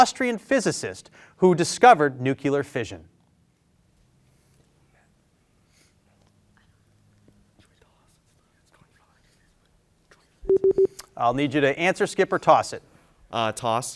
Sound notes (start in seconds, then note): 5.4 group whispering; 10.5 beeper beeping